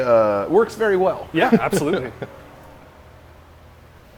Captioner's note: laughing